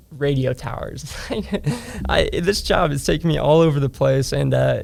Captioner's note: laughs